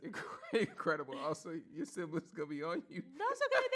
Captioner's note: laughs